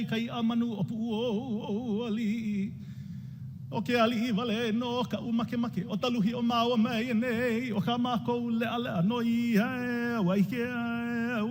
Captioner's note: speaking native language